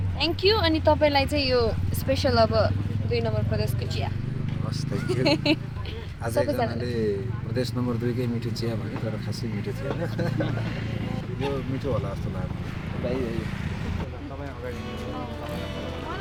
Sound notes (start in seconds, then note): 4.8 laughter; 10.0 laughter